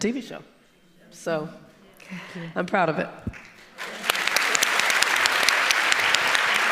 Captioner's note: audience applauding